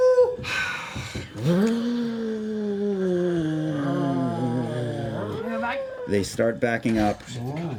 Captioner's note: cats growling